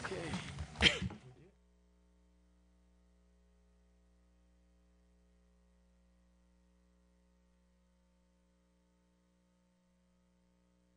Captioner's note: audio ends